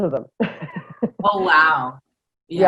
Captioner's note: laughter